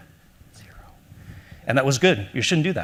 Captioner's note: whispering